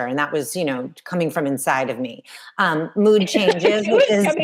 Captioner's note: all laughing